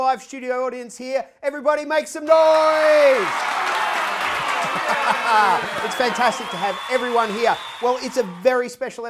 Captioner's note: cheers